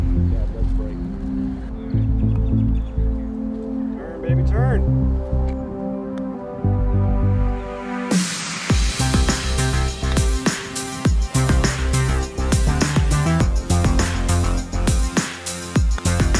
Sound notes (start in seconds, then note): 5.2 golf and nature sounds